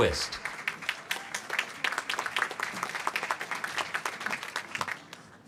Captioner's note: applause